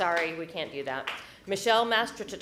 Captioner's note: applause